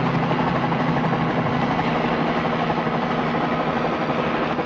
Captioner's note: helicopter roaring continues